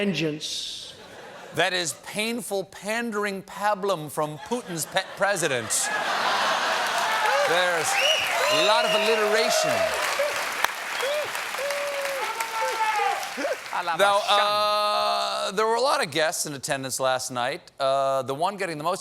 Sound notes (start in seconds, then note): 6.2 applause; 6.9 laughter